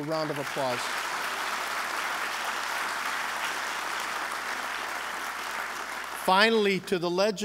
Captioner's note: applause